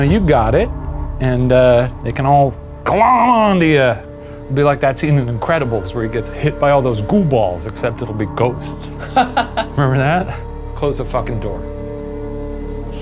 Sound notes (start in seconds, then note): 8.9 laughing